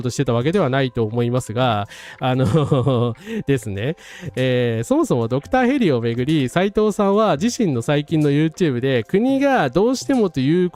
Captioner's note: laugh